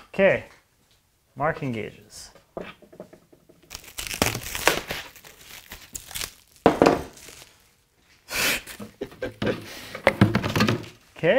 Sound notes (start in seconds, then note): 3.6 cellophane unraveling; 6.6 cellophane thumping; 8.8 laughs; 10.0 plastic rumbling